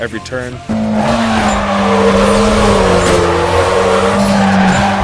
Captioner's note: car engine